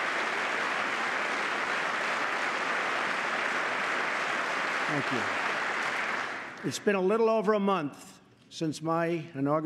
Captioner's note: applause